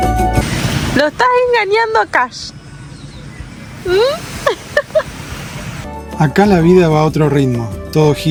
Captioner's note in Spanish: risas